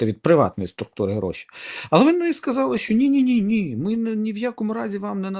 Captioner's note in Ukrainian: сопіння